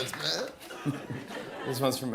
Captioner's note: laughter